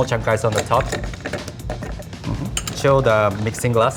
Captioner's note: ice clanks